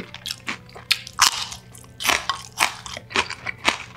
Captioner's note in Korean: 아삭아삭